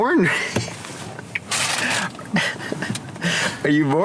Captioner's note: laughs